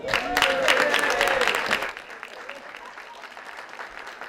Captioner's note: applause